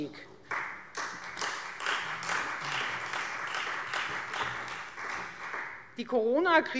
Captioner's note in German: Beifall Freie Demokraten